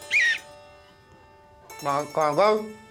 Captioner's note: whistle; dinging; garbled through food